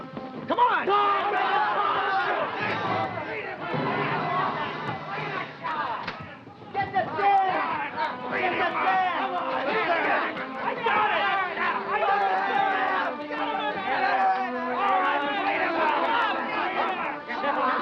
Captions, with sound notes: - Come on. (men yelling) (dramatic orchestra music) - Get Dan! - I got him! (men all shouting) (somber orchestra music)